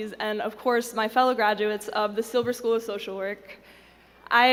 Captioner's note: none